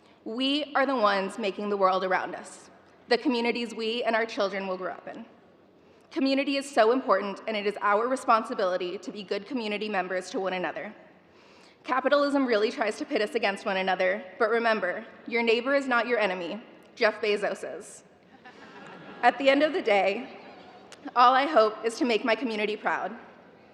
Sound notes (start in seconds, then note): 18.3 audience laughter